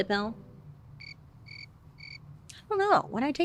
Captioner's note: insects chirping